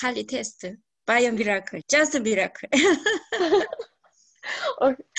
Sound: laughs

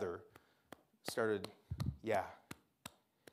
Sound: claps

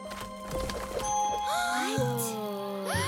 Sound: gasping

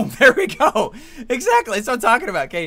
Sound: laughs

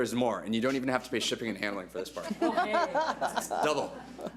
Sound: board laughs

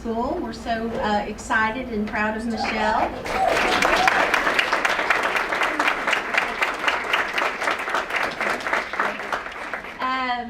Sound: applause

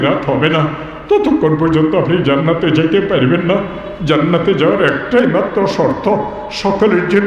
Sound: funeral prayer

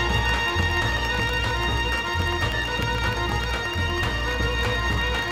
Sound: audience applauding

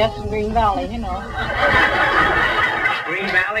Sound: audience laughs

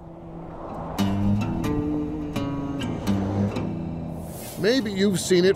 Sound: traffic driving; bluesy music

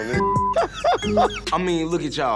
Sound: laughs

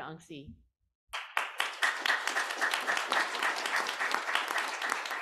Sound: applause

